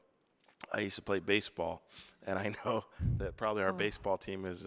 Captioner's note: chuckles